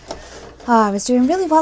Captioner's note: sewing